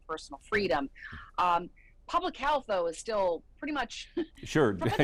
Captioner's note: laughs